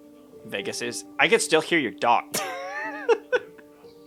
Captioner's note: laughs